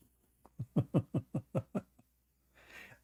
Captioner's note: Ketawa